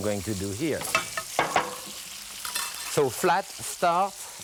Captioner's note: glass clunks